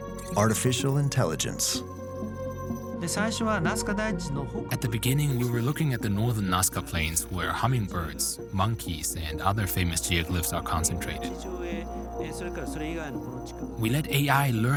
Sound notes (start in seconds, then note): 2.9 speaking Japanese; 11.9 speaking Japanese